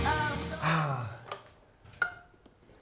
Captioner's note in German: Seufzer